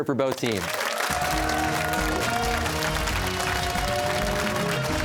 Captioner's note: cheers and applause